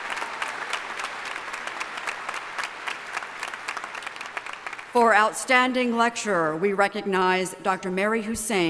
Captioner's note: applause